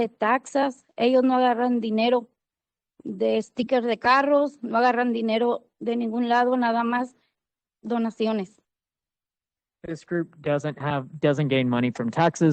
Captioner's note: speaking Spanish